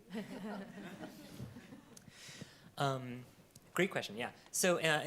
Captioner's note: panelists laugh